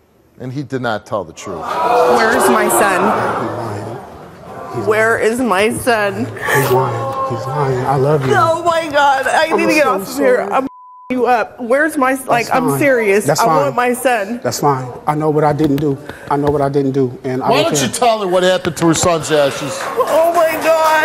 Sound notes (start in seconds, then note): 6.6 audience boos